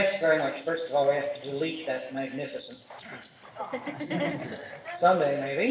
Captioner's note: laughter